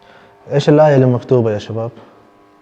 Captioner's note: Arabic